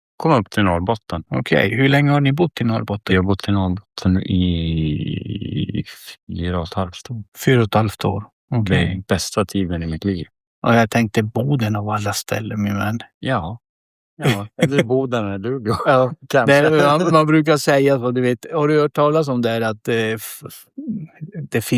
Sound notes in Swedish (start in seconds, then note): 14.2 skratt